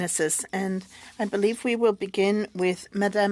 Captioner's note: speaking French